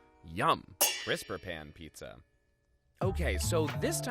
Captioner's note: metal clangs